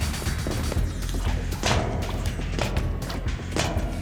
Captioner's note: flips, thuds